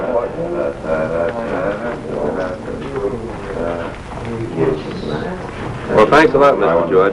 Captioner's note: speaking and mumbling